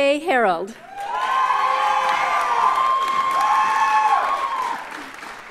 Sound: audience cheers and applauds

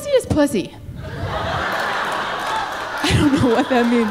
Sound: audience laughing

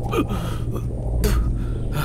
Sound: coughing; spits

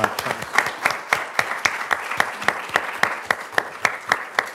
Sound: all applauding

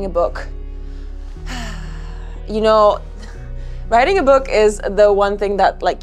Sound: sighs

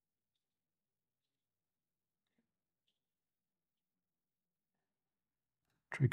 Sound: silence

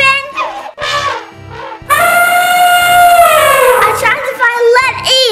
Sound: elephant calls

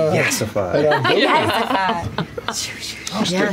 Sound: laughter

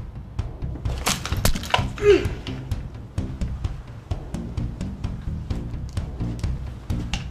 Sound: neck cracking; man grunting

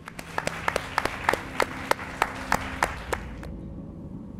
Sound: applause

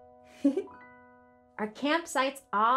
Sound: giggling

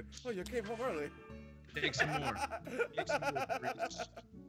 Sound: laugh

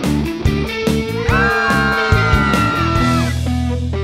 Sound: collective screams

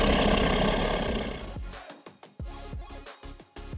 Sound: dinosaur roars; electric sound

